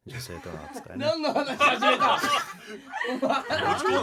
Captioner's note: laughs